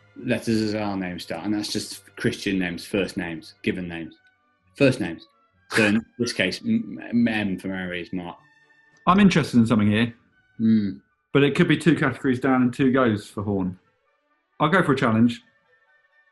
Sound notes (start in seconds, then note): 5.7 chuckling